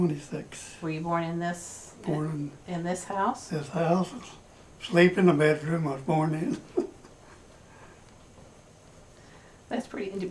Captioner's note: laughs